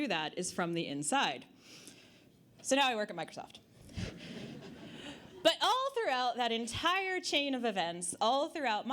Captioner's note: audience Laughter